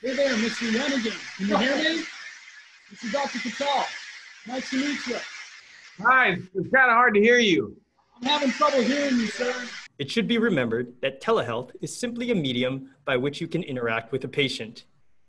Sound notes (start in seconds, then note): 0.2 doctor with static; 7.2 doctor with static